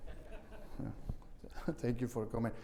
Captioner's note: audience laughing